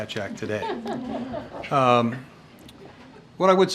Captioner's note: laughter